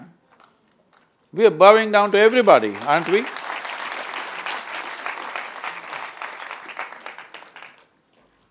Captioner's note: applause